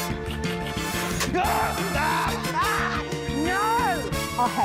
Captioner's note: all scream